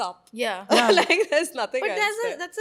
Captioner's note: laughs